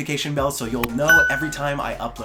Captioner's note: bell rings